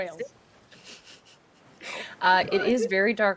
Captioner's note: person chuckling